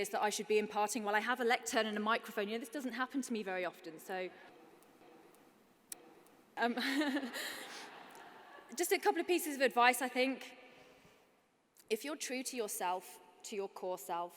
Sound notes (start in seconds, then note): 6.7 chuckles